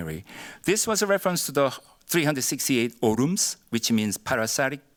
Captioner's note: korean